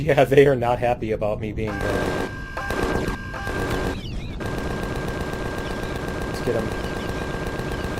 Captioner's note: laughs; machine guns